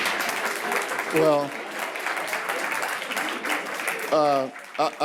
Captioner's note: audience applause